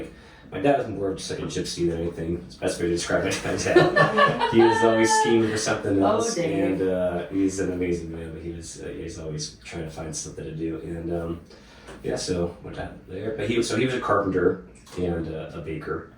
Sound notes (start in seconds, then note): 3.2 laughing